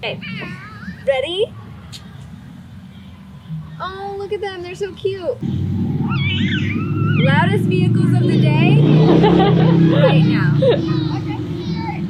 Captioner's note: vroom vroom